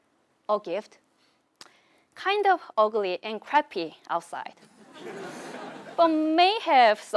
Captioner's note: laugh